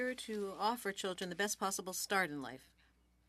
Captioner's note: speaking French